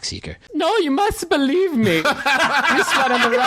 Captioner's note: in a silly German accent; laughter